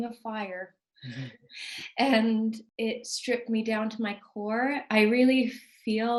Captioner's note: laughs